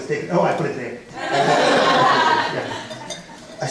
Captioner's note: laughter